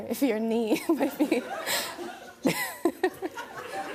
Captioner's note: laughs; laughter